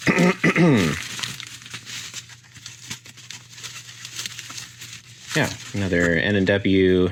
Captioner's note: clears throat